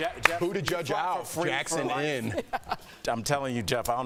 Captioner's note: laughter